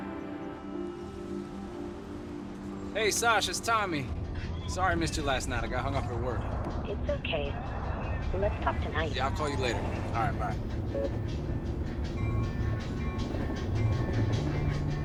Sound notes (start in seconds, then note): 11.8 tram bell ringing; 13.4 lively pop music